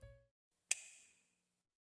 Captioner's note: click